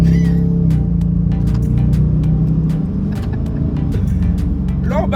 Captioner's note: laugh